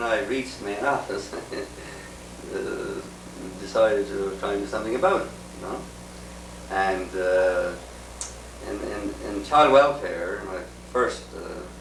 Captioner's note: laughs